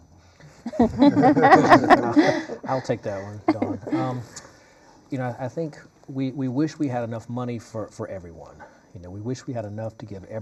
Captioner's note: laughter